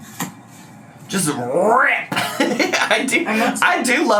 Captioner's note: laughs